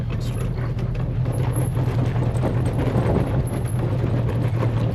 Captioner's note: truck rattles